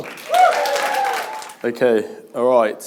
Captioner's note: audience applauding